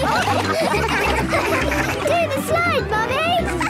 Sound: all laughing

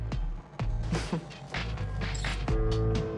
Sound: chuckles

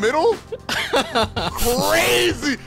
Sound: laughing

